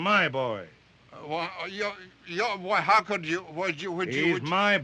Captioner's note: stammering